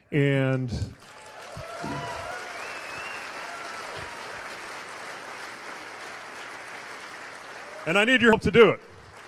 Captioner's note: cheers/applause